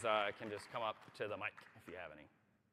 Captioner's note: applause